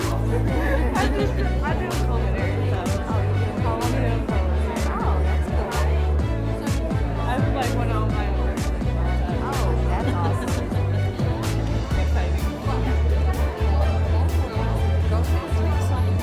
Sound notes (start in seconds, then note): 0.0 students laughing; 2.9 students chatting